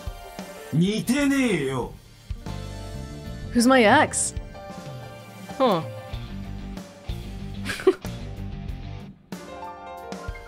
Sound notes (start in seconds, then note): 7.6 chuckles